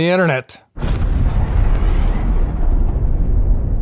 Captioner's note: explosion